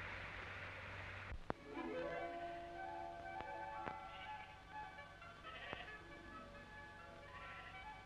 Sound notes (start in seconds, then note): 1.5 idyllic music; 1.7 sheep baaing